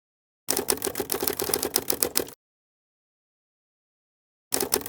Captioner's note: typewriter typing; typewriter typing